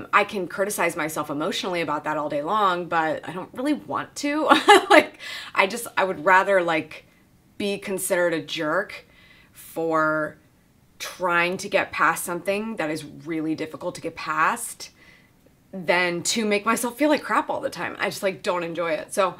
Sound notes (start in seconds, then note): 4.6 chuckles